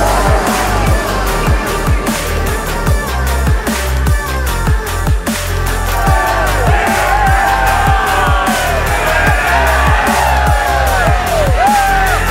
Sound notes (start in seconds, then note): 1.3 upbeat music; 6.2 team cheering; 6.2 upbeat music